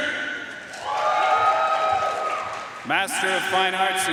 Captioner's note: audience cheering and applauding